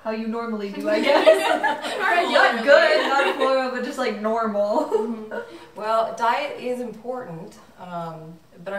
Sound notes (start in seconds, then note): 0.9 everyone laughing; 5.2 laughs